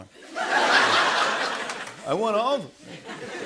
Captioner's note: laughter